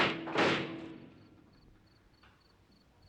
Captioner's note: explosions cease